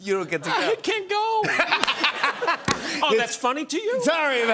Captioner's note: laughs